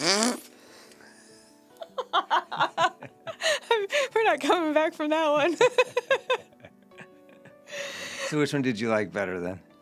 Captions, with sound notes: (laughing) We're not coming back from that one. So which one did you like better then?